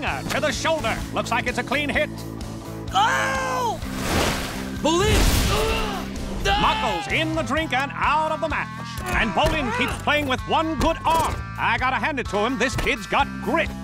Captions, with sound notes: to the shoulder. Looks like it's a clean hit. Ow! Bolin! [groaning] Mako's in the drink and out of the match, and Bolin keeps playing with one good arm. I got to hand it to him, this kid's got grit.